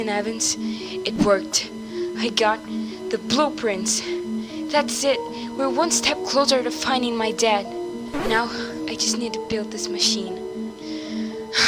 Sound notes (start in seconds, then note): 10.7 sigh